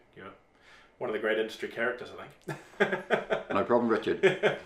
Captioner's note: laughs